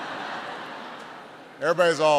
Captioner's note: laughter